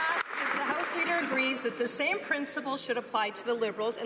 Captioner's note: some Applause